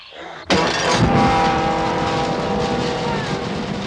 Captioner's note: whimpering